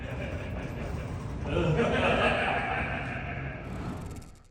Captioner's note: crowd laughing